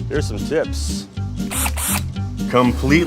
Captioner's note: mechanical whirring